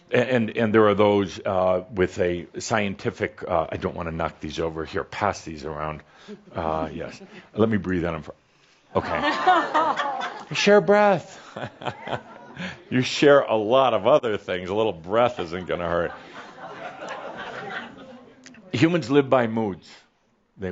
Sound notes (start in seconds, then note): 8.4 Adamus breathes over the popcorn; 10.7 audience responds “Ohh!”; 15.6 some laughter